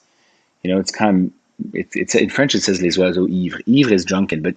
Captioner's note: speaking French